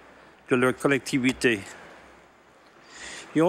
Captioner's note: speaking French